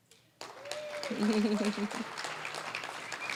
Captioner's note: applause, cheering; applause